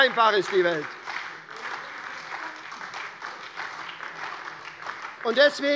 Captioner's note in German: Beifall bei der SPD